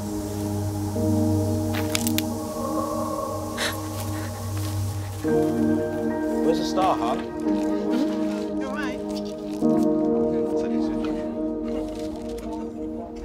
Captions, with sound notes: (twig snapping) (gasps) - Where's the star, hon? - Hmm? You all right? (chatter)